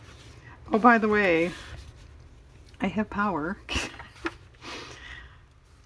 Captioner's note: laughs